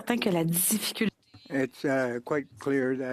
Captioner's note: speaking French